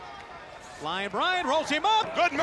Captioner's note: crowd chatter